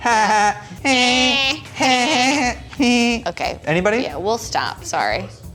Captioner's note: imitating laughter